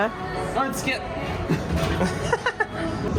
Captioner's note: laughing